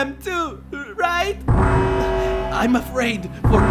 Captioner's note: siren blares